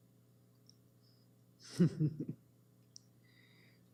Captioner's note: chuckles